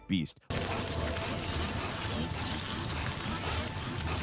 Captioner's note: runner panting